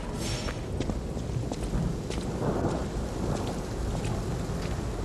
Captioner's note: tense foreboding music continues; footsteps banging